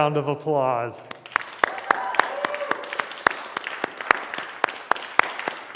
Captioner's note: applause